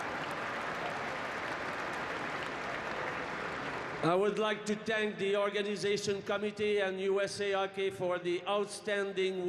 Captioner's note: cheering and Applause